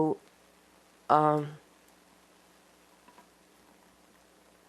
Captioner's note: pauses 8 seconds